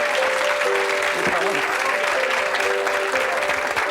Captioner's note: chattering